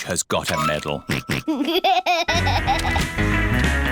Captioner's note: snorts and laughs